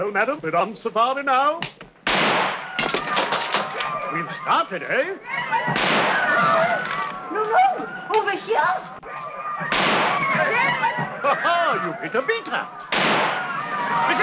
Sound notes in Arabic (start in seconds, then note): 1.7 صفعات يد; 2.0 أصوات إطلاق نار; 2.7 صراخ الجمهور; 5.7 انفجارات البندقية; 9.6 انفجارات البندقية; 12.8 انفجارات البندقية